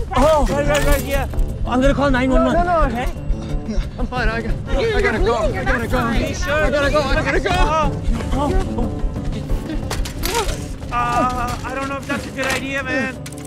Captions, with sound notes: Oh, right. Yeah. -I'm gonna call 911, okay? -No, no, no! I'm fine. I gotta go. You're bleeding, you're not fine. -Are you sure? -I gotta go. I gotta go! [Jibran gasps] Oh. [cyclist whimpers] Uh... I don't know if that's a good idea, man.